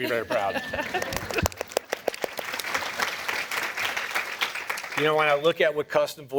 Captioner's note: applause